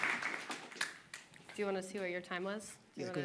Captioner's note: applause